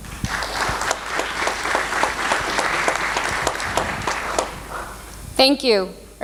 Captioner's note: applause